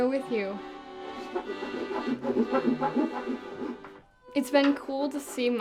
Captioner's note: saw creaking